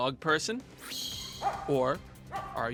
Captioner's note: dog barking